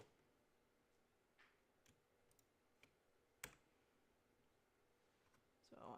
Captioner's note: mouse and keyboard clicking